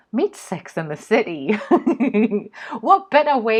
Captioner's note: laughs